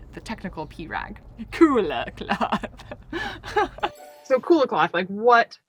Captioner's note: giggles